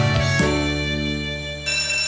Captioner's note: bell rings